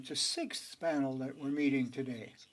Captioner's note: speaking French